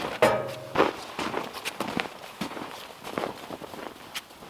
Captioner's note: footsteps crunching